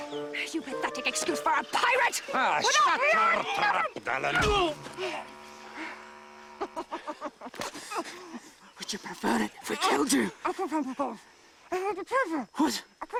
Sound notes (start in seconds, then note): 4.2 groaning; 6.4 laughing